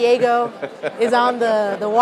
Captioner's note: laughter